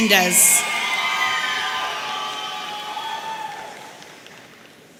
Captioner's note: audience cheering